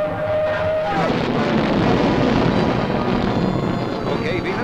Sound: engine roaring

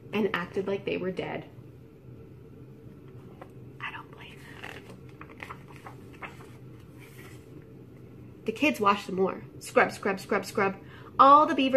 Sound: whisper: I don't blame them

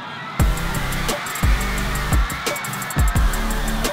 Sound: cheering

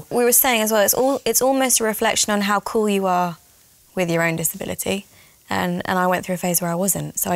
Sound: none

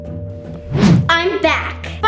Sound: wind whooshing

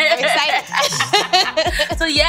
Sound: laughs

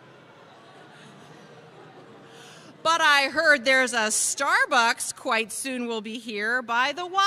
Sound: crowd noise

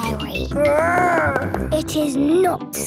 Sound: growls

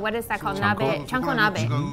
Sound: speaking in foreign language

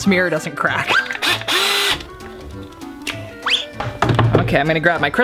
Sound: drill sounds

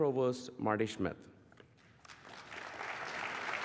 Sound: applause

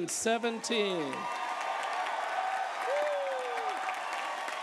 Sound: applause

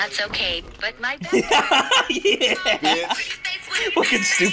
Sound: laughs

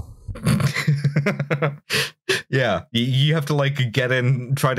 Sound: laughter

